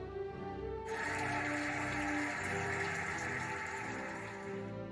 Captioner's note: cheering and applauding